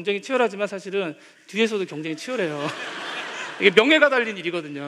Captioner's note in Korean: 웃음